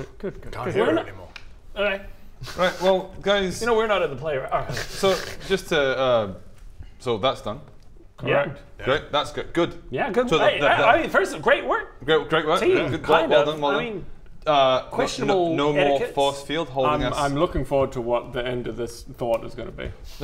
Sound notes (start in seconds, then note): 5.0 pfft